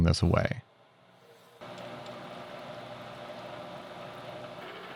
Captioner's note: machine whirling